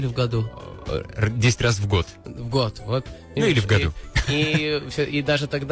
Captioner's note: <i>laughing